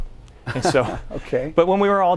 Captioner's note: laughs